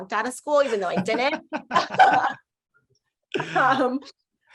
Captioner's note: laughing